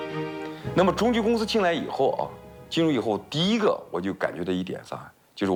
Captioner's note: speaking in foreign language